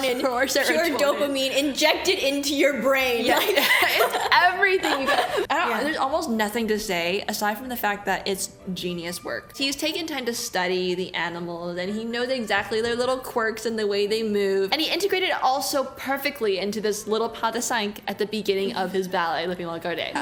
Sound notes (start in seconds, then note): 3.2 laughs